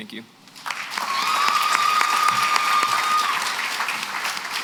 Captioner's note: applause